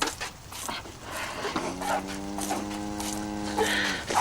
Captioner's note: cow mooing